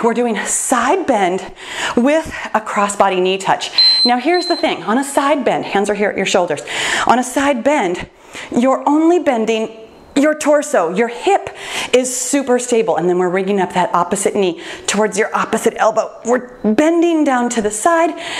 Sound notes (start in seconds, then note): 3.7 timer beeps